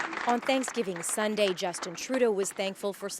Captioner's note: applause